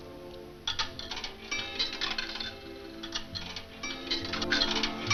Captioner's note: coins rattling